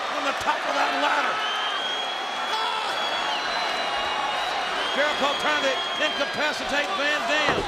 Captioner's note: applause